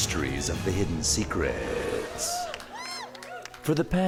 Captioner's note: cheering